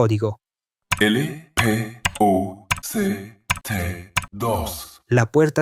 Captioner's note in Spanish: tecleos